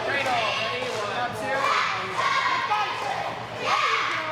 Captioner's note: girls cheering